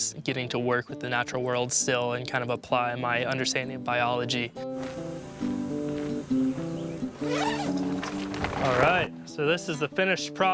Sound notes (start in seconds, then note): 6.9 zipper sound; 6.9 cloth rustling